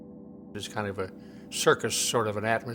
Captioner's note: voiceover